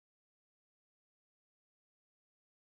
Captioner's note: none